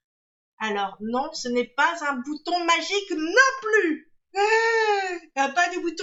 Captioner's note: surprise sound